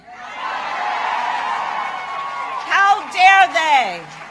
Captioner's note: applause